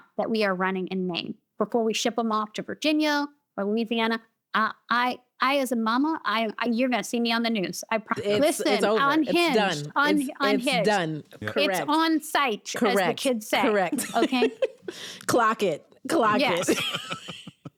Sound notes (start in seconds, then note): 13.6 laughs